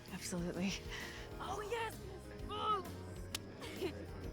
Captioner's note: high-five clap